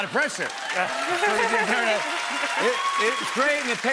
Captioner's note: cheers and applause